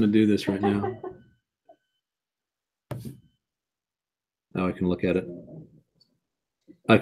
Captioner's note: laugh